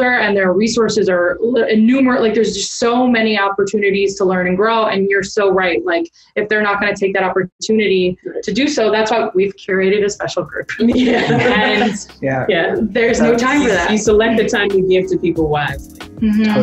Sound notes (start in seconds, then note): 10.8 all laughing